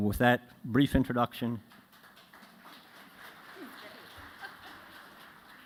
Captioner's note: applause